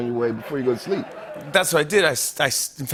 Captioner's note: laughter